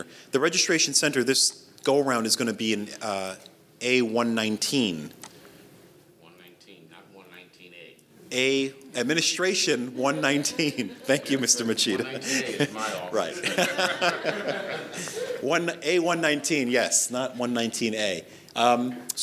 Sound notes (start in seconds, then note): 13.7 audience laughs